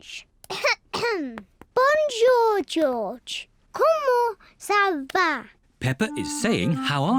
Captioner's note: coughs